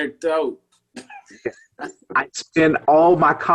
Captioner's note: laughs